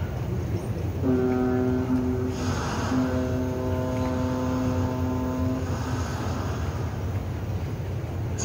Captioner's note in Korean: 뱃고동 소리